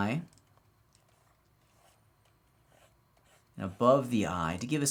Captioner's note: computer mouse clicking